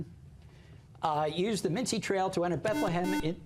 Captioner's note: buzzer